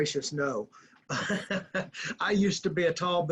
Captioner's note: laughing